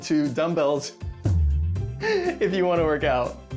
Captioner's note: chuckles